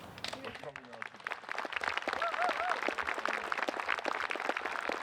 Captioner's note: crowd clapping